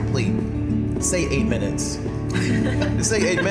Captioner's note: all laughing